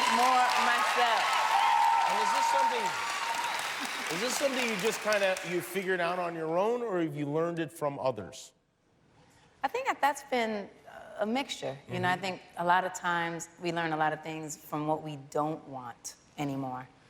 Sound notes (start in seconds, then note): 1.9 cheers and applause